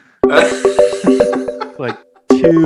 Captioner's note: laughing